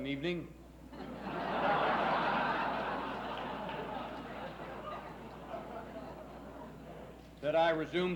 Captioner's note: laughs